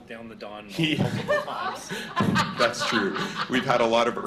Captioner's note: laughter